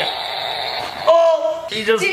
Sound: balloon sounds

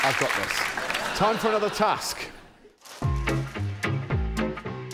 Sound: applause

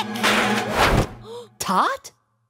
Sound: crash

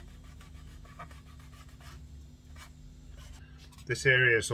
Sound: sanding sound

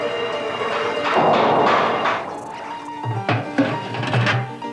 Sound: clattering

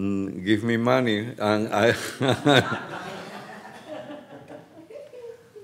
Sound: audience laughs; laughs

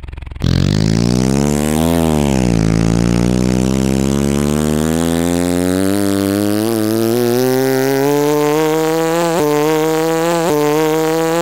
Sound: motor buzzing

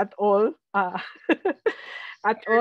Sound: laughs

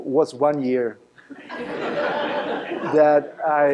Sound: laughter

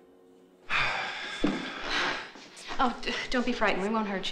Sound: sighs

